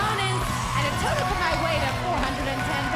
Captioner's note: crowd cheering